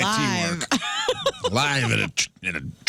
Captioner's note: laughing